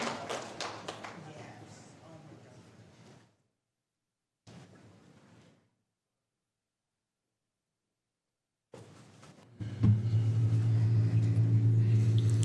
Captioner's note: applause